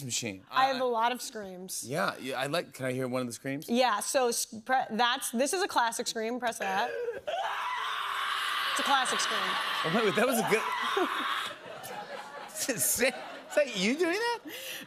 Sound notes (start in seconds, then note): 6.6 woman screaming; 10.4 laughter